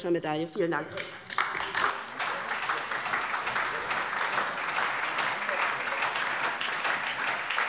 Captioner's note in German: Beifall bei der LINKEN und der SPD